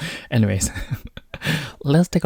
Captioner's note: chuckles